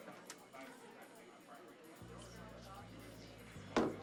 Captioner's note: crowd chattering